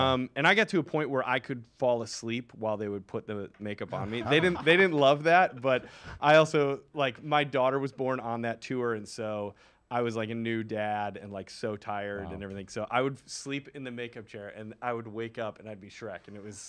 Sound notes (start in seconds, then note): 3.9 laughs